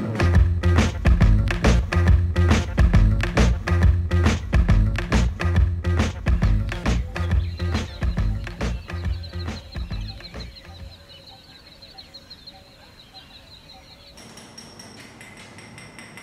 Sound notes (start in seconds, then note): 7.0 birds chirping; 14.1 tool clanking; 16.0 birds chirping